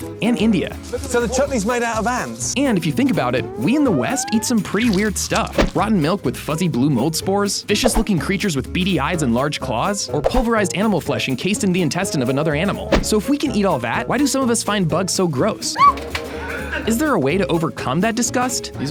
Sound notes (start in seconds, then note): 15.7 woman screams